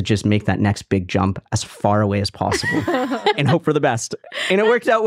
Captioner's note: laughing